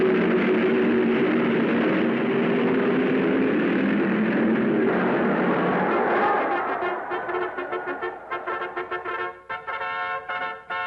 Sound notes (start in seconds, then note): 4.6 crowd cheering